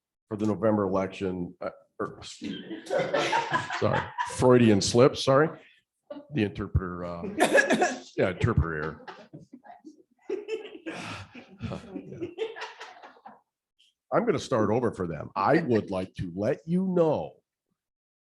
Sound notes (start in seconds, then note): 7.2 laughter; 16.3 laughter